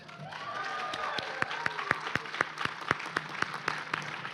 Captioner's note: applause